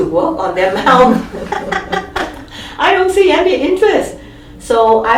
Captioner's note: all laugh